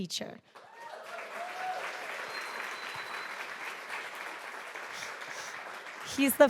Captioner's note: audience applauding; audience cheering